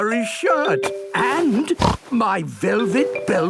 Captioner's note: snorts